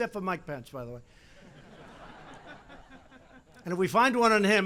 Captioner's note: laughter